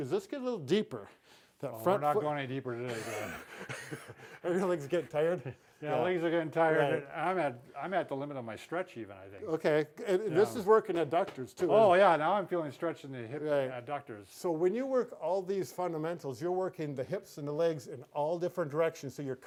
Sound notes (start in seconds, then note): 2.8 both chuckle